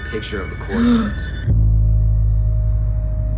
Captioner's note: gasps